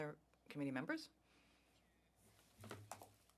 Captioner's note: speaking French